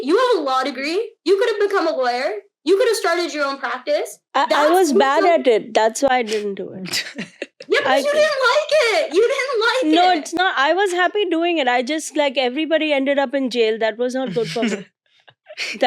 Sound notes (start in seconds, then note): 6.9 child chuckling; 14.3 child laughing